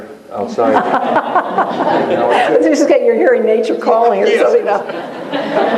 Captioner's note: laughter